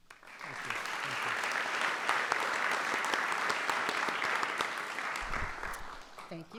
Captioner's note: applause